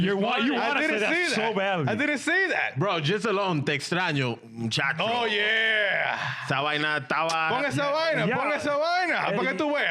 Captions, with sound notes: Why you wanna say that so badly? I didn't say that. Bro, just alone, textráño, chatrío. Oh yeah. (Speaking In Foreign Language)